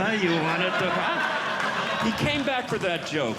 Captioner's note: audience Laughing